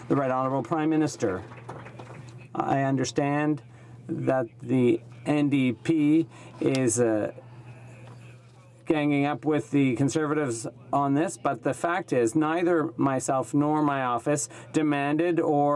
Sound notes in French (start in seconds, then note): 1.0 voix de l'interprte